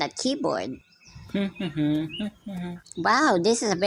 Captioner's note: playful humming